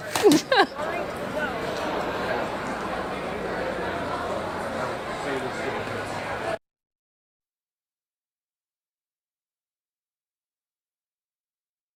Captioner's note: laughter